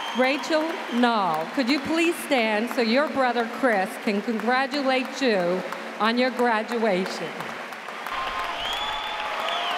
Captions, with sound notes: Rachel Nall, can you please stand so your brother, Chris, can congratulate you on your graduation? [CLAPPING] [CHEERING]